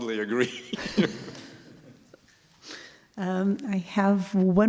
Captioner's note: laughter